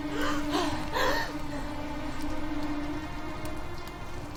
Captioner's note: heavily breathing